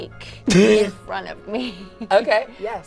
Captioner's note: laughs